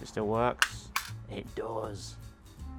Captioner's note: click